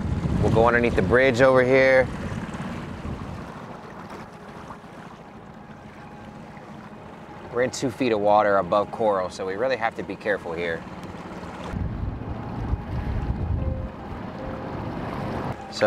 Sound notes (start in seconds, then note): 3.1 boat engine revving; 3.1 water splashing; 6.7 soft ominous music; 11.9 soft ominous music